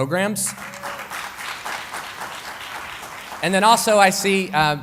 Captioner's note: applause